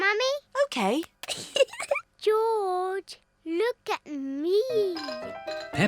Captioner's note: giggles